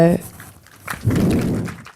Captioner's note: audience applauds